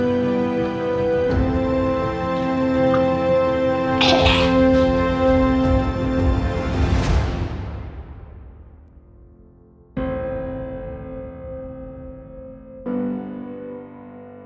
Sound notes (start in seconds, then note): 4.0 gags